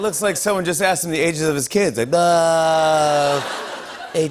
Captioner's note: laughter